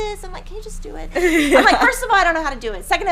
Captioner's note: laughing